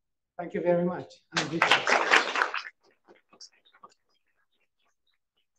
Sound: audience applauding

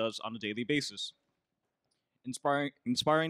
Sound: none

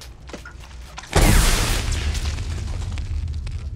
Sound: electricity crackling

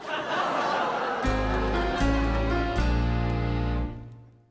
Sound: audience laughing

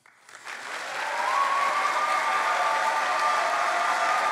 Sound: cheering

